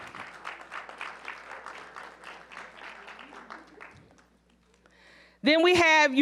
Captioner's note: applause